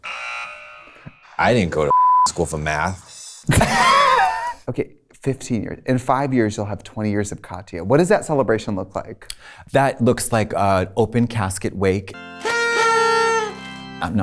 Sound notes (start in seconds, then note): 0.0 alarm buzzes; 1.8 beep; 3.4 both laughing; 12.0 organ music; 12.1 kazoos honking